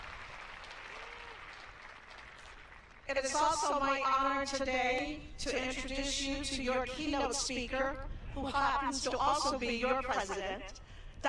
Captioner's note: applause